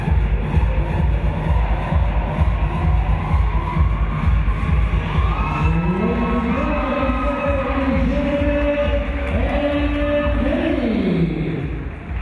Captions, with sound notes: (clapping) (cheering) Ladies and gentlemen, that was Jared and Heidi!